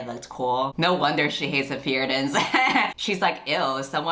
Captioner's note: laughs